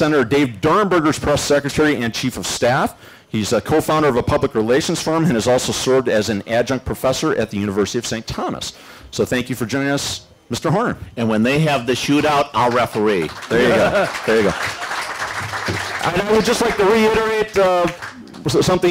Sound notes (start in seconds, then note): 13.4 laughs; 16.1 applause